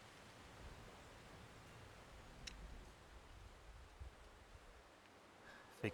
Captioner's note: clicks, nothing happens